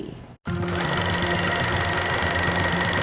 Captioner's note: film reeling loudly; tense rhythmic music